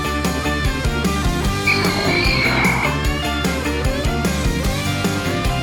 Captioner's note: Music : Pokemon Gastly cry